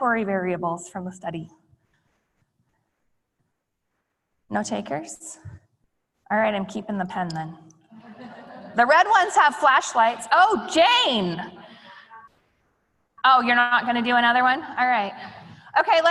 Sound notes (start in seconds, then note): 8.0 laughing